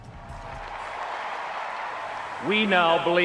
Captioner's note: audience cheers